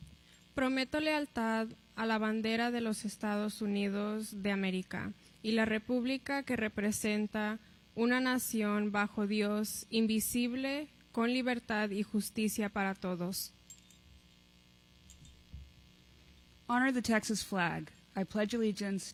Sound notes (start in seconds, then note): 0.6 pledge in spanish